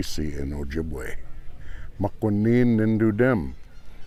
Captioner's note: speaking ojibwe